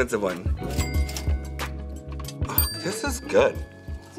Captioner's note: cash register dings